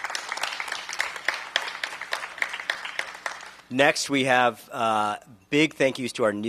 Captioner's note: applause